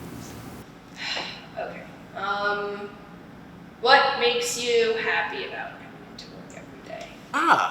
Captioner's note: sigh